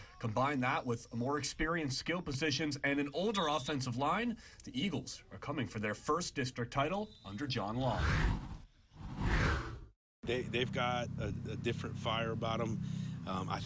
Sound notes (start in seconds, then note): 9.0 air whooshes